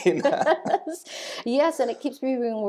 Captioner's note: laughing